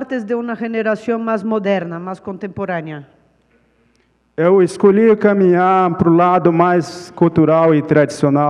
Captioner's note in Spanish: Ponente habla en portugués